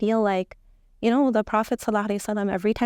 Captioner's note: speaking Arabic